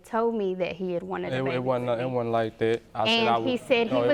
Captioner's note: stammering